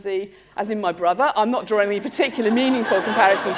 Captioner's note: laughter